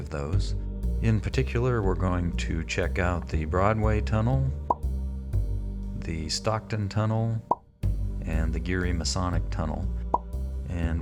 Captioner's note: popping sound as each label appears